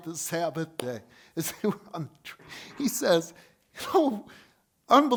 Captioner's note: laughs